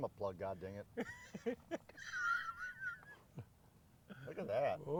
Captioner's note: laughing